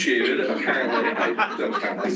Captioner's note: laughter